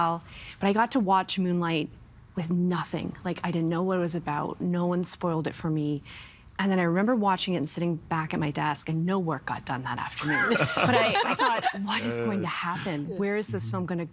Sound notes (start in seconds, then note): 10.2 all laughing